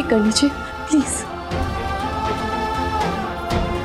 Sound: emotional vocalising

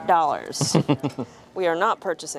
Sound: laughing

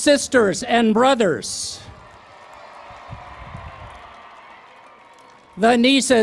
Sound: cheering and Applause

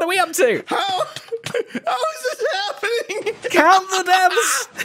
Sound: laughs

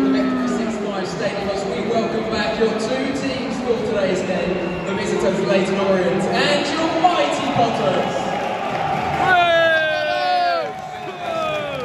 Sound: fans jeer and cheer

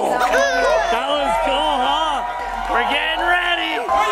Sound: crowd cheering

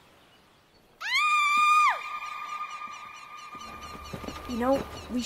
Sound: Taylor screams

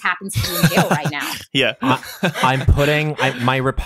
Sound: laughing

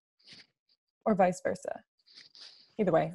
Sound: none

